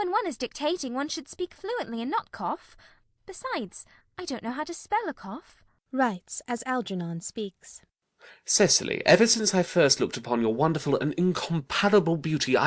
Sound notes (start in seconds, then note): 8.8 speaking very rapidly